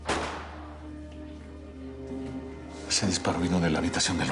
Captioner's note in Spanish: Disparo